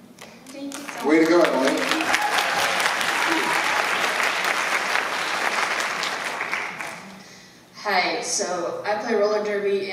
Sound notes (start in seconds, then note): 4.4 applause